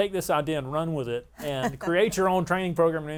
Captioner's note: laughs